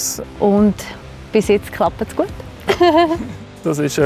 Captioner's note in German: lachen